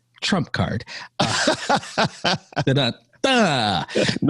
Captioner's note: laughing